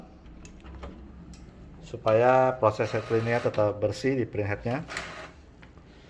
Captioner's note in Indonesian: suara mesin printer